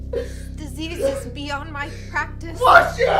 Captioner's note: cries